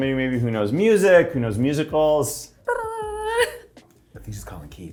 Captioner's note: imitating phone ringing